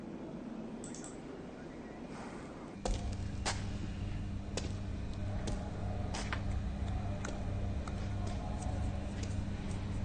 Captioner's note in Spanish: Clic del ratón